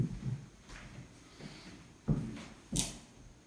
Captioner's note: heavy Footsteps; deep Inhale